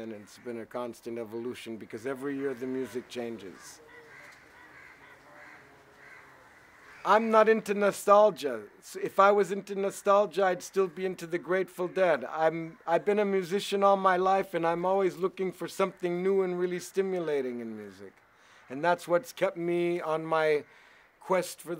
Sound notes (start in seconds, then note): 2.2 birds squawk